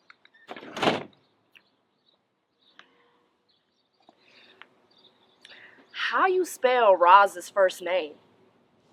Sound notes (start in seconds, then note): 0.4 door slamming